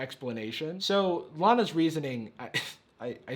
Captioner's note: laughs